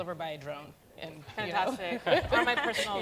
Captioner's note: laughter